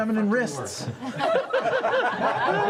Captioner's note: laughter